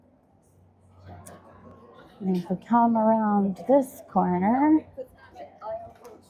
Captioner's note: crowd chattering